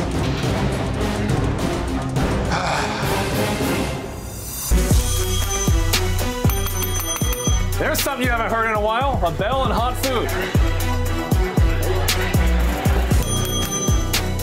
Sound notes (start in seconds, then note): 5.0 dinging